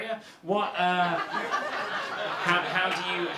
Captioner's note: audience laughter